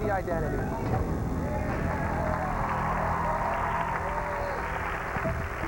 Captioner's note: cheers and applause